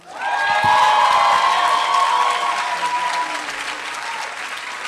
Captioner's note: applause